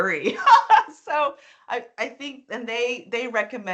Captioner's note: laughing